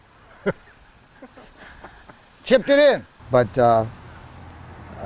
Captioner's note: laughs